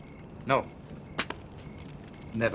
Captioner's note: light smack